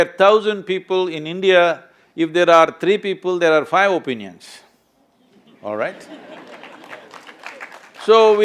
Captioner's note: few laugh